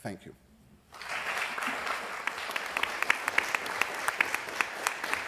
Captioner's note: applause